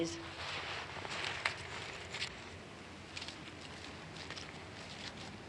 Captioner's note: footsteps on the grass